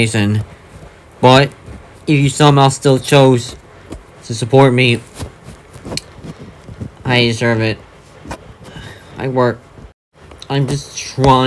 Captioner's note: sigh